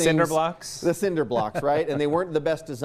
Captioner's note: laughing